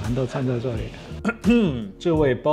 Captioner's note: ahem